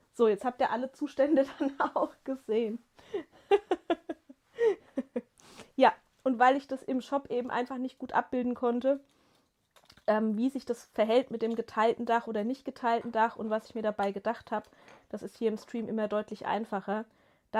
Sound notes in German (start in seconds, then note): 3.1 gelächter